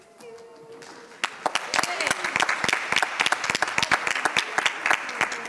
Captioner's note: audience applauds